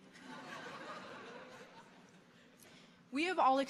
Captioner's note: audience laughing